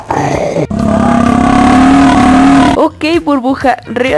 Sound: buurp

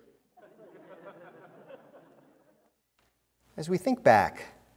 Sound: congregation laughs

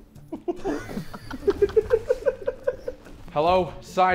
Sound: Sidemen laughing

